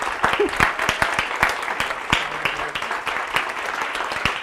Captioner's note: audience applauding